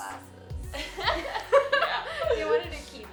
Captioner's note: laughing